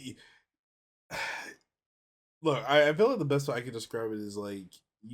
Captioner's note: sighs